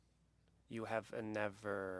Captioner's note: speaking French